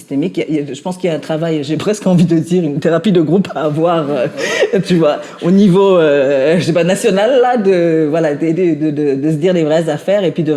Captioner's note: laughs